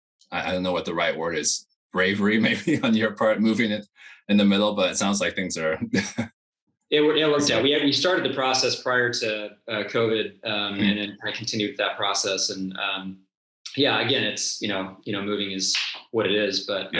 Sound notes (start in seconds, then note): 5.6 chuckles